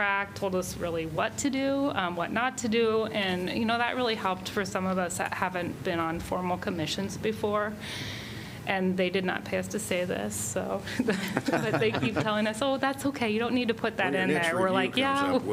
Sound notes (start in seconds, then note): 10.9 laughter